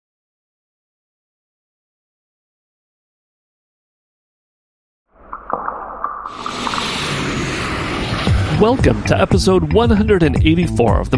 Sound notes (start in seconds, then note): 5.2 whooshing; 5.4 upbeat music